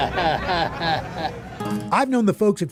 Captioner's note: chuckles